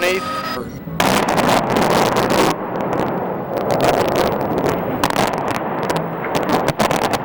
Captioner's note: explosions